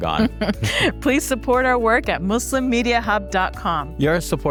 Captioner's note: laughs